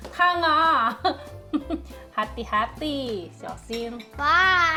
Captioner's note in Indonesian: tertawa